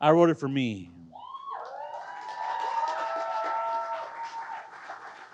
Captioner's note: crowd cheers and applauds